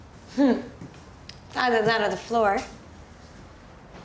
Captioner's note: chuckles